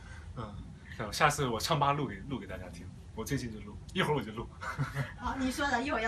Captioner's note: laughs